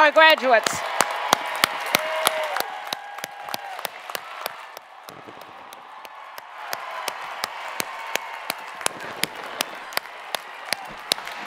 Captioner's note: cheering and Applause